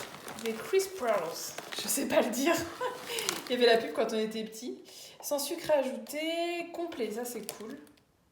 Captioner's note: laughs